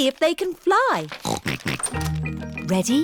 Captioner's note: snorting